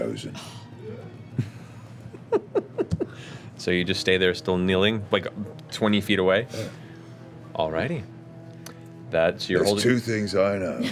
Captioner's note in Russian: смеётся